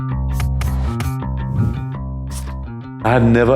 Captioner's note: upbeat music; text whooshes